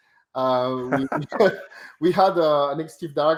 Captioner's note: both laughing